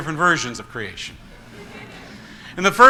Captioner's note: congregation laughs